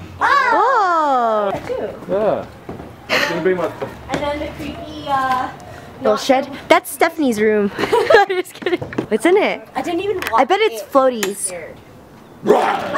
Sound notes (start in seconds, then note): 7.6 laughs; 12.4 growls